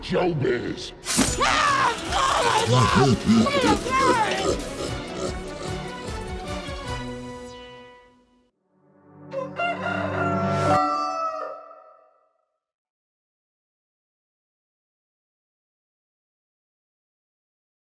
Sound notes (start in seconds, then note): 1.2 screams; 4.6 monster laughing; 4.6 suspenseful music; 9.0 bright music; 9.0 rooster clucking